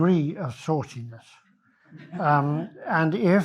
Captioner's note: audience laughs